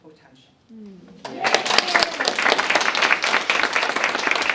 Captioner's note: audience clapping